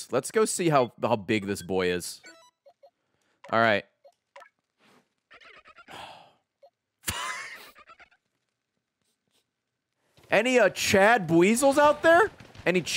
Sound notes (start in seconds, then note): 5.8 sighs; 7.0 laughs